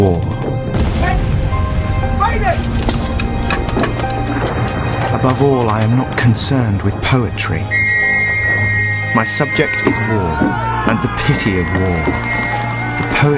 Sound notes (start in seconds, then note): 7.6 whistles sound